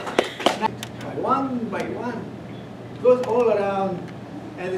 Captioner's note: chatter